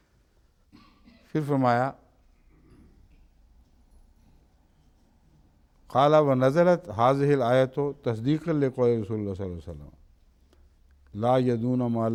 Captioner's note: Arabic